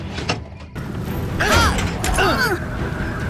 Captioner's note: all grunting; grunting